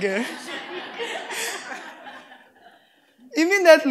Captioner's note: laughter